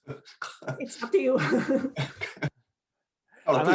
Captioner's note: panelists laughing